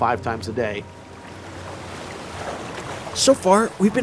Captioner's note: waves crashing